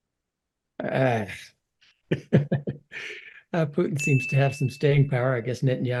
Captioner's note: laugh